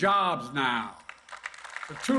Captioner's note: applause